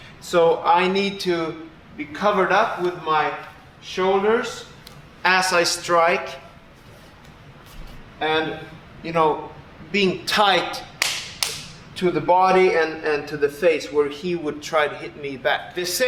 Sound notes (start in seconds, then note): 11.0 slapping arm